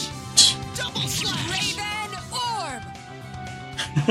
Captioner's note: scoffs; chuckles